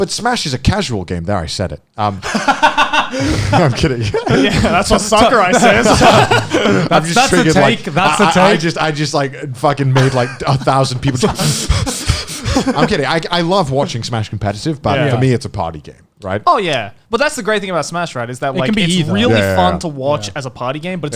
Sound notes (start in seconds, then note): 2.2 all laughing; 6.1 laughing; 11.5 inhaling quickly